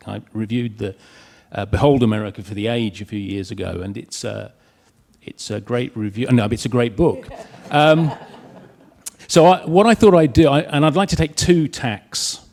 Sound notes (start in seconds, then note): 7.1 audience laughs